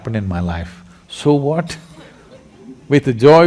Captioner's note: laughter